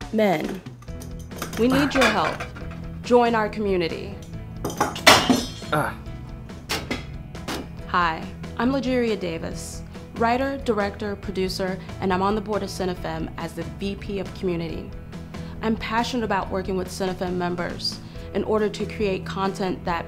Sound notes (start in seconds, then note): 5.6 man grunts